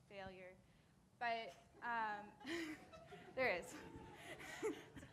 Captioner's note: audience laughing